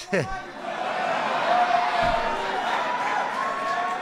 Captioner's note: applause